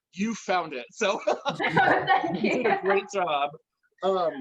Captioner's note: laughs